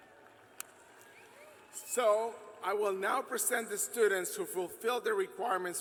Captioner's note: cheers and applause